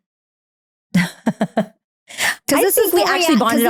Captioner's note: laughing